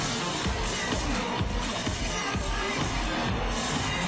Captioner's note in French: Cris de la foule